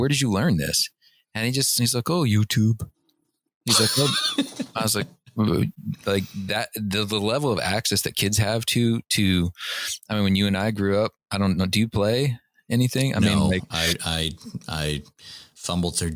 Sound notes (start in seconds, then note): 3.6 laughter